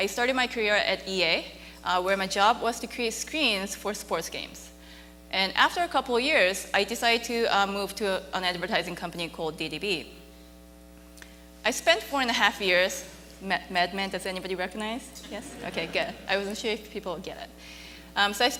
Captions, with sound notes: I started my career at EA, where my job was to create screens for sports games. And after a couple of years, I decided to move to an advertising company called, DDB. I spent four and a half years... Mad Men. Does anybody recognize? Yes? Okay good. (audience laughing) I wasn't sure if people would get it.